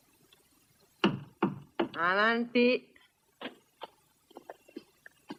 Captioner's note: knocking